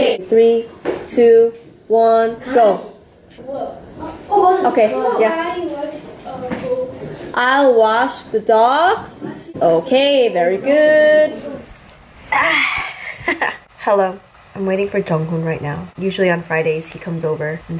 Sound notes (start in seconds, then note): 12.3 laughs